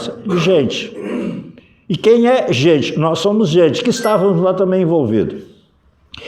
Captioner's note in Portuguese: limpando a garganta